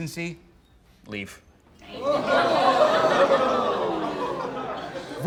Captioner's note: crowd